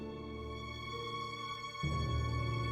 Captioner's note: none